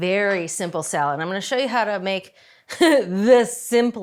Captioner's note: chuckles